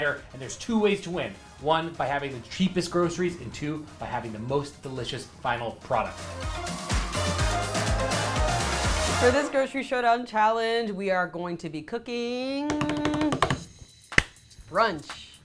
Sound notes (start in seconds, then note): 6.6 upbeat music; 12.7 slaps table; 14.1 claps